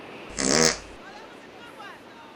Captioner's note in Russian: звук пердежа